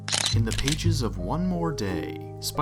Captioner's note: camera shutter